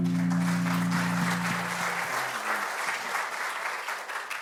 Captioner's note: audience applauding